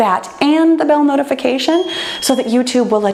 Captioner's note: bell chimes